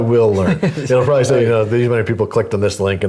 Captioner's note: laugh